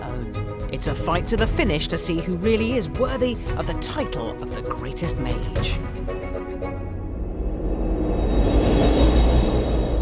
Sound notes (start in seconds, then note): 5.5 dramatic music; 6.8 echoing whoosh